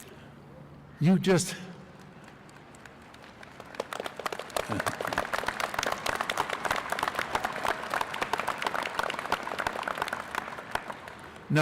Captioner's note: applause